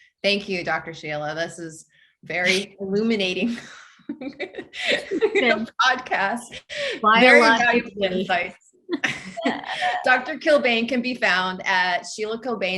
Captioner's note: both laugh